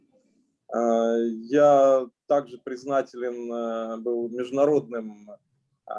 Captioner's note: speaking Russian language